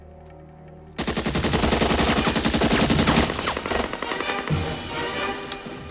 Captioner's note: machine Gun Fire